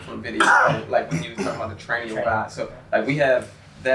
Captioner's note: coughing drowns out speaker